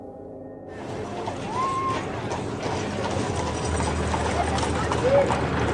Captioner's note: cart clanking; people chattering